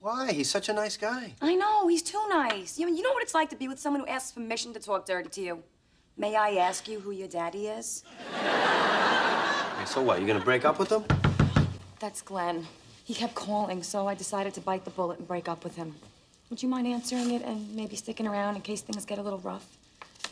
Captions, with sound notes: - Why? He's such a nice guy. - I know, he's too nice ! You now what it's like to be with someone who asks permission to talk dirty to you? "May I ask you who your daddy is?" Okay, so what, are you gonna break up with him ? [Knocks] That's Glen. He kept calling so I decided to bite the bullet and break up with him. Would you mind answering it and maybe sticking around in case things get a little rough ?